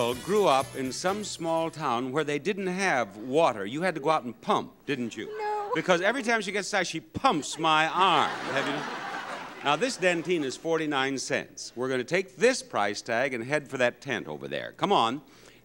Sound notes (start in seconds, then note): 7.2 audience laughs